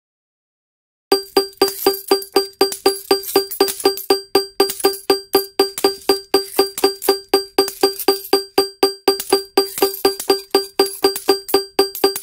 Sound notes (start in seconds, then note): 1.1 sound of jackpot alarm and coins